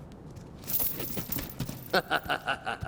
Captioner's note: thuds